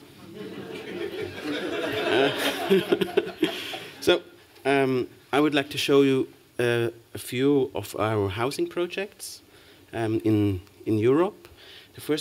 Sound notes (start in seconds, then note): 0.3 laughter; 0.3 chuckles